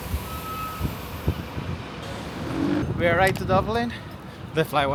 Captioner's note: birds chirping